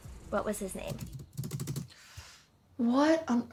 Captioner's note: fast typing